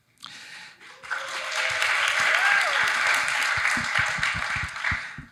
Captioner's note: audience applauding